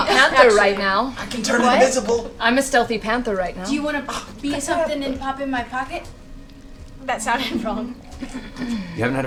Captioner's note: laughs